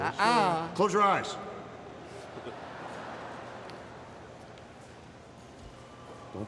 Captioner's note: crowd vocalizing